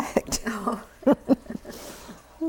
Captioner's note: laughter